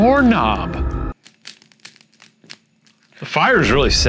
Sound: fire crackling

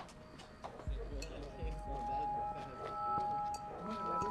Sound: indistinct chatter

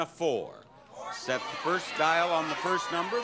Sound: audience shouting

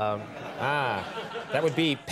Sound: audience chuckles

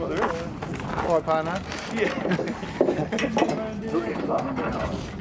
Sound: laughter

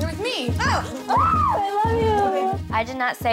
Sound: screaming

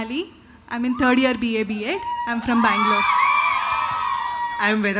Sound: cheers

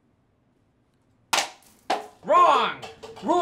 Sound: cup Clatters

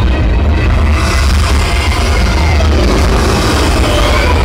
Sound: plane engines running

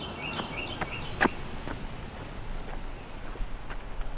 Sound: birds chirping

